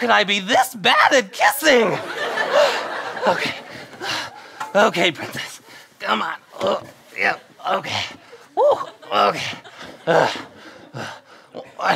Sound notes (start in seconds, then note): 6.5 groaning